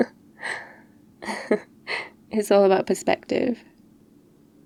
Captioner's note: laughs